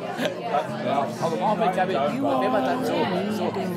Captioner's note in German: Stimmengewirr